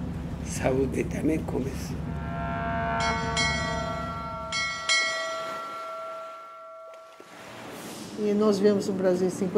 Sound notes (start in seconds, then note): 2.0 ship docking and bells ringing